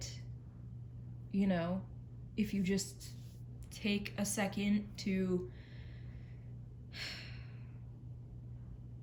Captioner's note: sighs